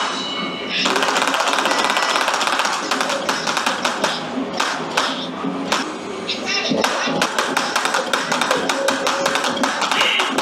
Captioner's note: clapping sounds